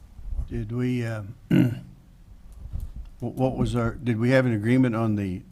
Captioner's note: clears throat